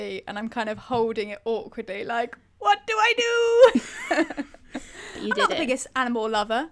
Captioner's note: laughs